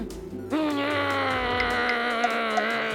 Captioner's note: grumbles